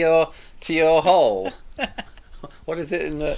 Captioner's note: both laughing